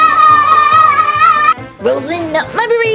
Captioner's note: girl shouts